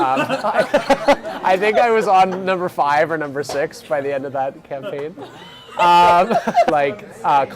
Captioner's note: laughing; laughing